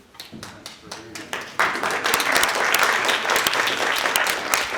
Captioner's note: applause